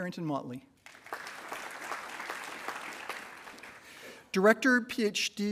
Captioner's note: attendees applauding